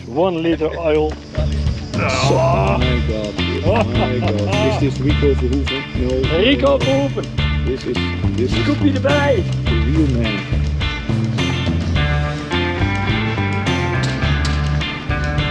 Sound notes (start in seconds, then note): 1.9 groaning; 11.2 funky music continues